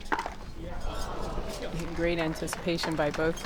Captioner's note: crowd groans